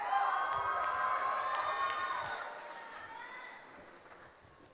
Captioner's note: cheering